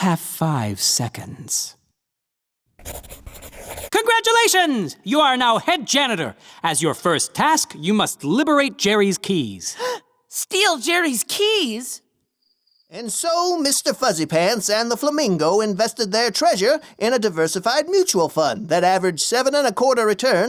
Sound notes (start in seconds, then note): 2.8 scribbling; 9.8 gasps